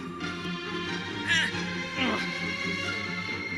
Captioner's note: thrilling music; groans; thrilling music